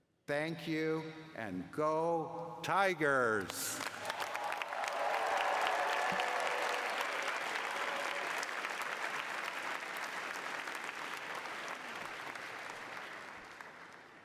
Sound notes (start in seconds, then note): 3.4 cheering